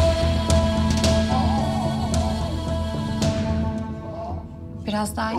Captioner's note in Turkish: Zor nefes alıyor